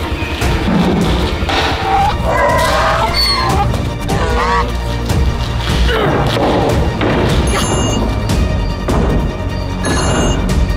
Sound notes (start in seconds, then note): 2.1 cries in pain